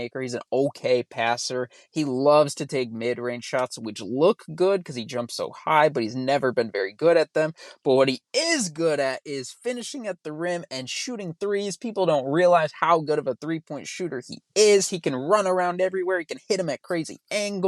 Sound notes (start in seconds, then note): none